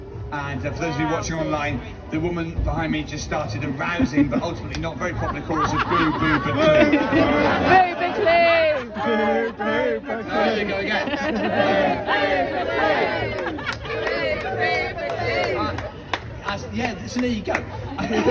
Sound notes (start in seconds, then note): 6.6 crowd chants